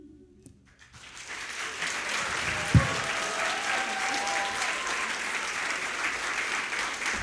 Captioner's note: audience applauding; audience cheering